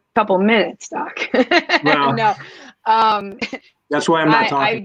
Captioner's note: laughter